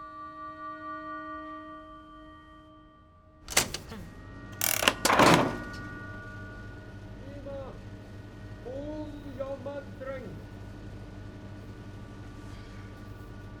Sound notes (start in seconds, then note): 4.5 machine starts humming; 8.9 Mr Salber cries out in unknown foreign language